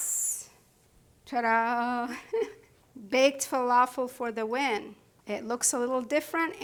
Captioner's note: laughs